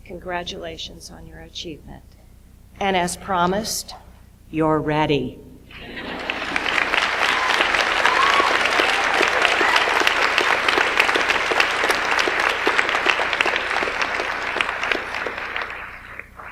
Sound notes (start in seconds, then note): 6.2 audience applauds